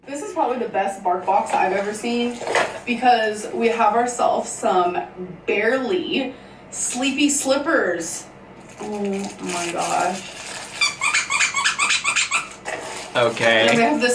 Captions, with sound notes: - This is probably the best BarkBox I've ever seen, because we have ourselves some barely sleepy slippers. Oh my gosh. (squishing)